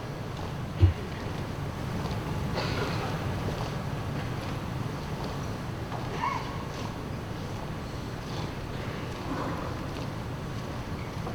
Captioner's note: foot steps